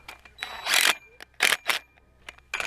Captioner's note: drill buzzes; rail clanks